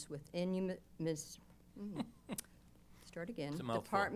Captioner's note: laughs